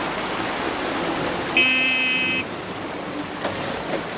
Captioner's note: horn honks